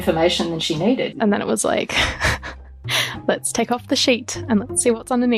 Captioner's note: laughs